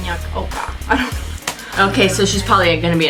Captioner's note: laughs